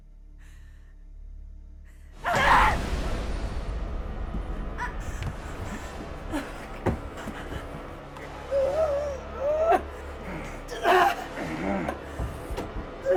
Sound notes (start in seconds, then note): 1.8 Tina grunts over thudding strike; 6.4 Sue groaning; 10.2 Sue grunting